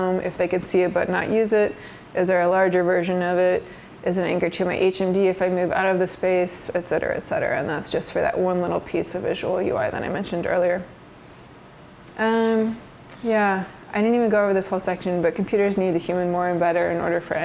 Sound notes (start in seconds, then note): none